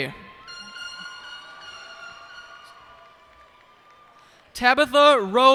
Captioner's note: cheers and applause